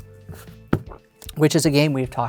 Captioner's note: thumps cards